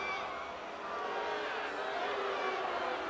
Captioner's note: crowd booing